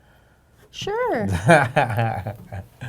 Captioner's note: laughing